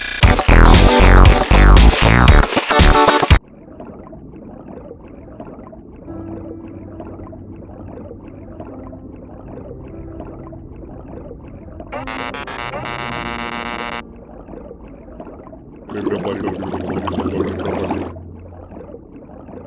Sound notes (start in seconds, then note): 3.4 underwater swimming sounds; 11.9 beeping and buzzing sounds; 15.9 gurgling